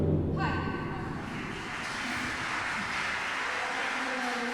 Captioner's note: applause